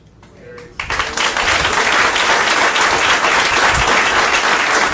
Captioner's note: audience applauding